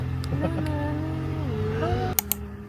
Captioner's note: son: Hums the main theme. Heh